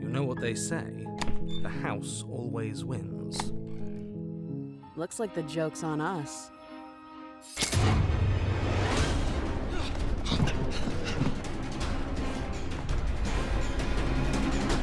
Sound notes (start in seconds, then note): 9.6 both panting; 12.5 tense fearful music playing